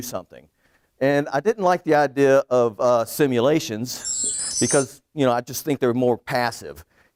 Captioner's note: twinkle noise